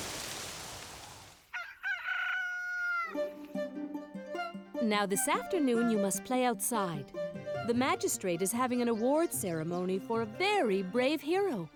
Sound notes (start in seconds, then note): 1.5 rooster sings